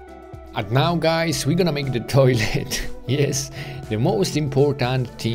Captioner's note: chuckles